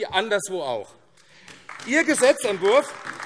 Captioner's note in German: Beifall AfD